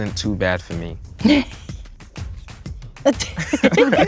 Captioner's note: all laugh